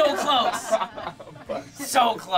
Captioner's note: laughing